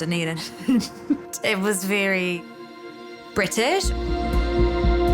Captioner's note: chuckles